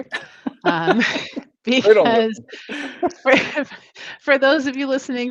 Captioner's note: laughs